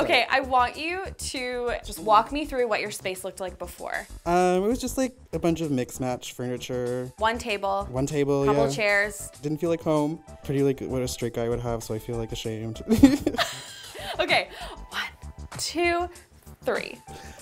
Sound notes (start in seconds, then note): 12.9 laughs